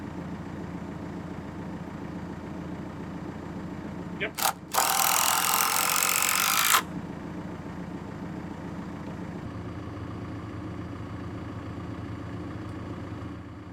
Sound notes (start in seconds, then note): 4.3 drill buzzing